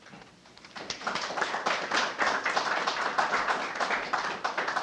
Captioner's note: audience applauding